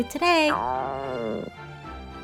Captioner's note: stomach growl